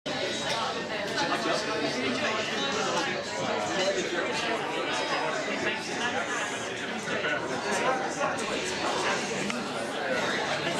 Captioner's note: crowd chatting